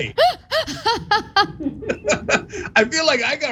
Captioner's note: laugh